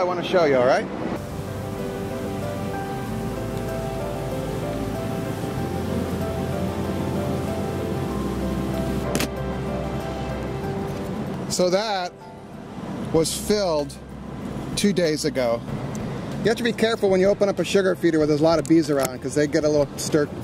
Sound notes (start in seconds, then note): 1.3 instrumental piano music; 5.6 bees buzzing